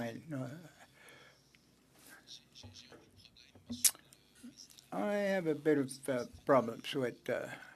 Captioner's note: speaking French